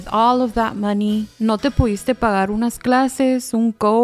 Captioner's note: Spanish